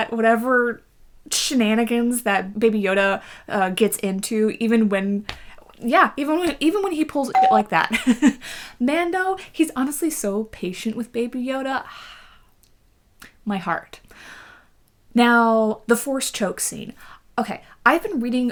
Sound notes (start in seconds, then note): 7.3 bell bleep